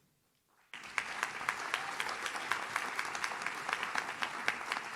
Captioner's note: audience claps